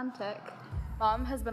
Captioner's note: record screeched sound